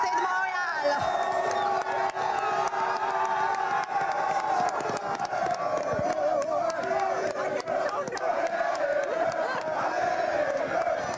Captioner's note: cheers and Applause